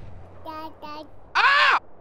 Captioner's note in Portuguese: grito do cj